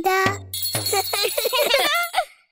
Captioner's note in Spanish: Risas